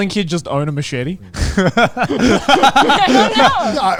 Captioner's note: all laughing